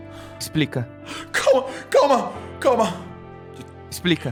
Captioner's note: panting